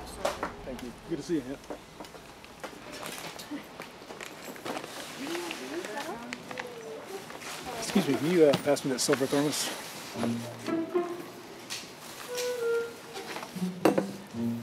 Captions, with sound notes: Thank you. Good to see you again. [wrapper paper crinkling] Is that all? Excuse me, can you, uh, pass me that silver thermos? [quirky instrumental]